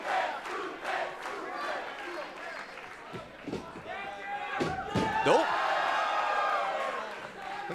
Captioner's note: crowd chanting